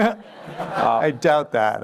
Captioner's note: laughter